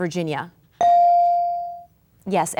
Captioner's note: bell dings